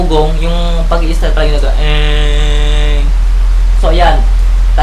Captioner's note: imitating motor sound